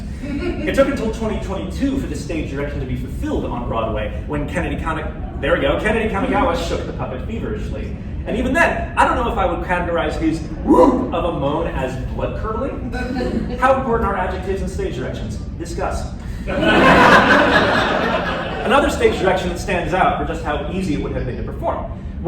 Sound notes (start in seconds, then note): 16.4 laughter